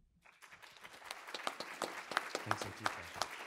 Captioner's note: audience applauding